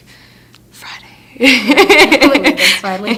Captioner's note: laughing